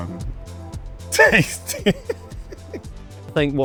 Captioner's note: laughs